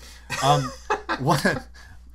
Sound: laughter

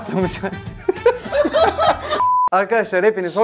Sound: laughter

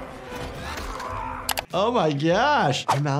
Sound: man screams

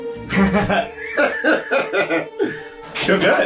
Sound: both laughing

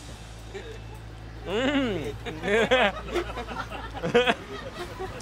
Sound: laughs; laughing

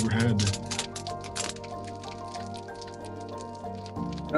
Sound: fire crackling

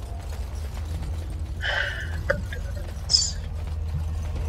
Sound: sigh

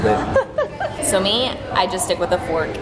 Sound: laughing

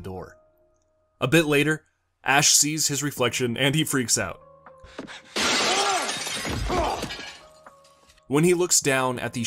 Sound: glass Shattering

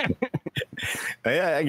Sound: laughter

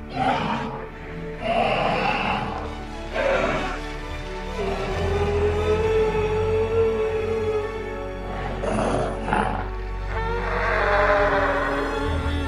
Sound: various dinosaur sounds

